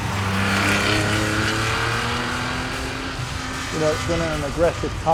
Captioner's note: engine revving